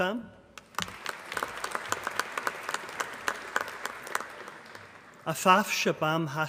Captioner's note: applause